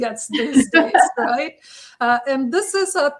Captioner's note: laughter